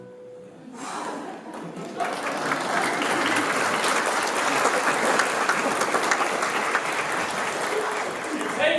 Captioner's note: applause